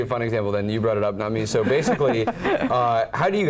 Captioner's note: laugh